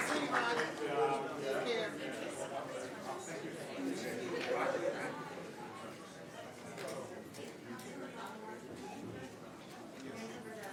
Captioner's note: applause